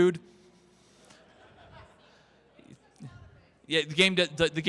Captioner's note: crowd Laughter